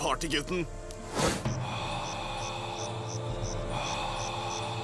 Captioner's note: inhales sharply